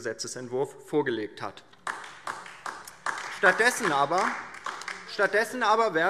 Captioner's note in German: Beifall